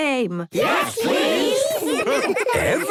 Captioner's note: laughter